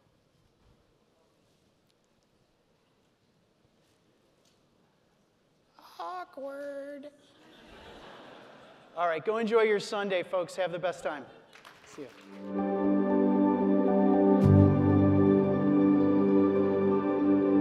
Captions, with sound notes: Awkward. (audience laughing) All right, go enjoy your Sunday folks. Have the best time. See you. (gentle music)